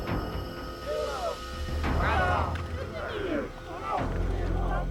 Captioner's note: speaking alien language